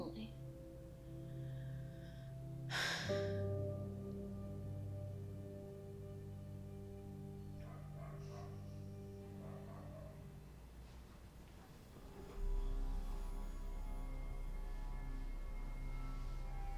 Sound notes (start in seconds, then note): 2.7 sighing; 9.3 dog barking; 11.8 ominous music